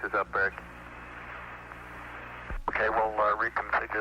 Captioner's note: radio transmission